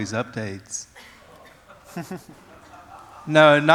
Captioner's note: laughs